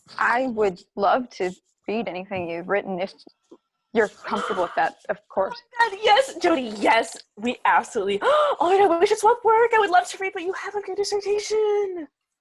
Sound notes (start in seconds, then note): 5.1 masie gasps; 8.2 gasps